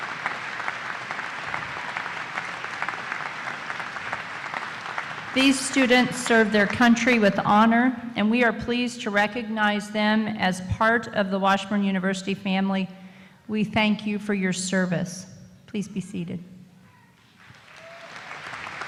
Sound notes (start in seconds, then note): 2.6 applause; 17.3 applause